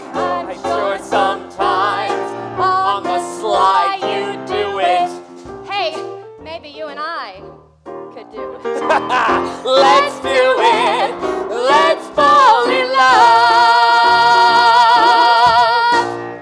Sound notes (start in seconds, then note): 8.7 laughs; 10.2 singing